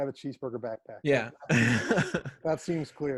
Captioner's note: laughs